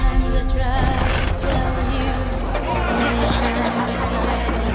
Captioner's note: beings and animals clamoring